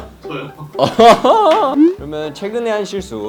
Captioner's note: awkward laugh